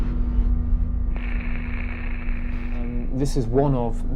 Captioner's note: static